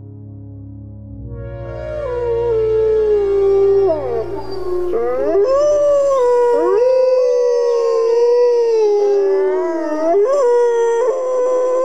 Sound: wolves howling

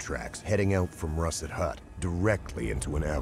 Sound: voiceover

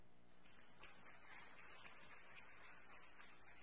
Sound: applause

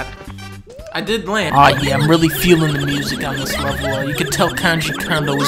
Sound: terrible, cacophonous squeaking throughout

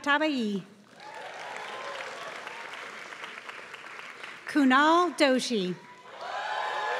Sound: applause

